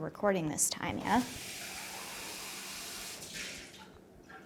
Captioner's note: toilet flushes